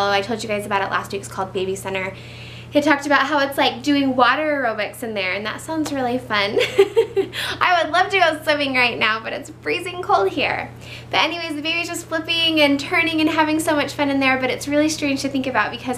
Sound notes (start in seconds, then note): 6.6 laughs